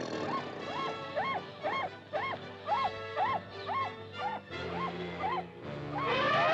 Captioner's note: suspenseful music; tiger growls; suspenseful music; deer squawks; suspenseful music; elephants trumpet